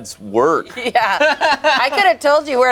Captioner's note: group laughs